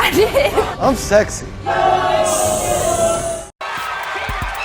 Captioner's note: audience boos